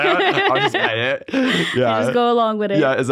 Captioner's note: laughs